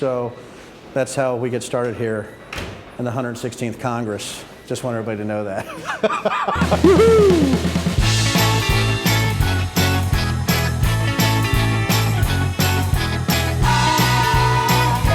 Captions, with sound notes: So that's how we get started here in the 116th Congress, just want everybody to know that (laughing). Wahoo! (upbeat music)